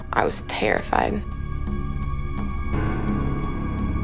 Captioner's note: water splashes